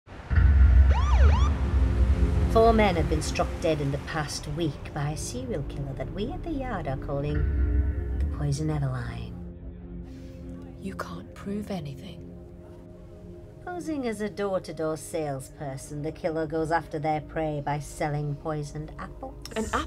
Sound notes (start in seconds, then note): 0.8 police siren